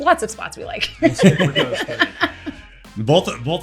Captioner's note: laughter